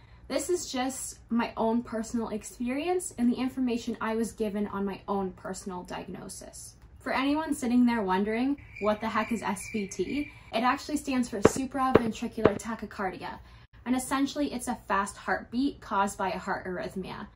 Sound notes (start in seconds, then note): 8.6 cricket sounds